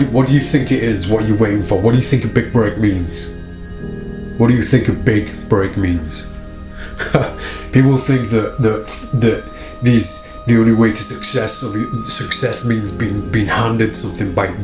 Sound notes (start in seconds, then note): 6.7 laughs